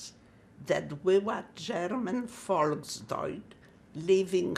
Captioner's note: german